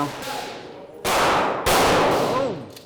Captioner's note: gunshots